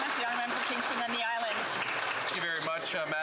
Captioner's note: some Applause